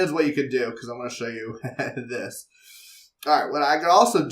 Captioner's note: laugh